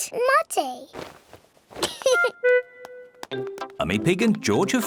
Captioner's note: giggles